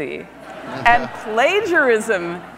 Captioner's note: audience laughs